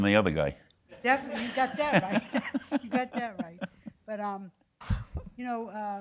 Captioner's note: laughing